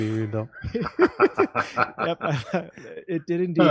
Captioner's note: laughing